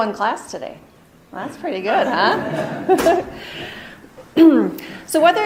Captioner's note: laughing